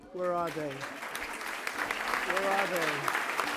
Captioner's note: applause